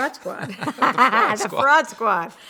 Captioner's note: laughs